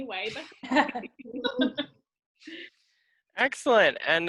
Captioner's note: background laughter